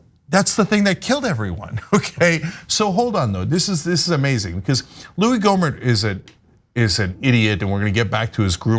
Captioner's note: laugh